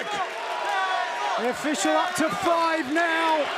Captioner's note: crowd cheering